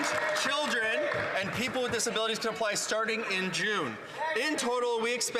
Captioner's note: some Applause